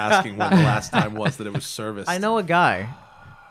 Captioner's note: laughter